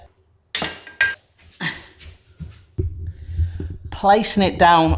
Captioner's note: pan clattering